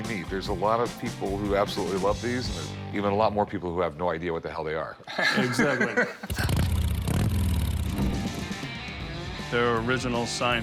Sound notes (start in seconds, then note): 5.1 laughs; 6.4 motorcycle engine revving